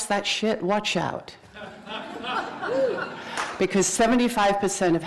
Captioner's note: laughter